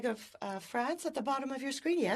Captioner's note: speaking French